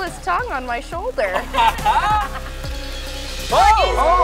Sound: laughing

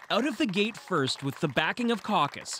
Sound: applause

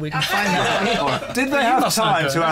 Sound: laughter

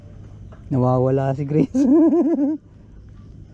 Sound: laugh

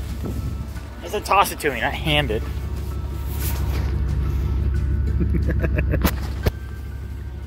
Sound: laughs

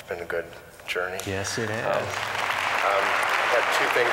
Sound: applause

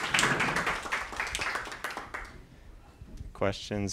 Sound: applause

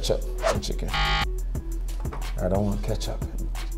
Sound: buzzer beeps

